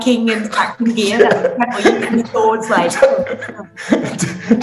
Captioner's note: laughing